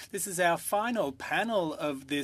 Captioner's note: speaking French